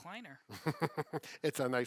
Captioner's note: laughs